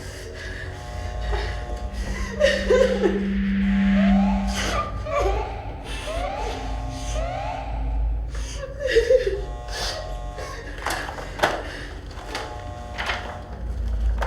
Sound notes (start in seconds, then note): 1.0 Elizabeth crying